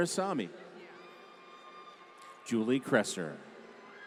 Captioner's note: applause